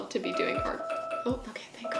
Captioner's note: alarm ringing